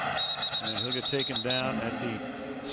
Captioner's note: whistle blows